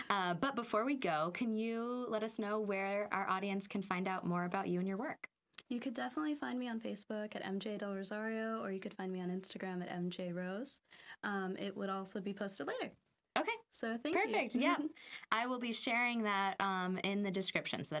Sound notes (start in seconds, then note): 14.9 laughing